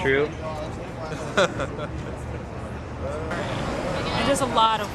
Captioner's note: forced laughter